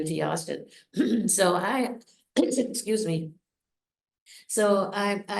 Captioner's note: coughs